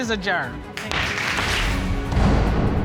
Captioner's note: pounds gavel